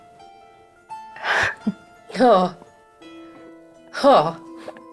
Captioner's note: chuckles